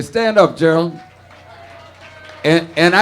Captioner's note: audience cheering and applauding